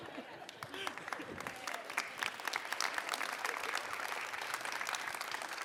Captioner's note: audience applauds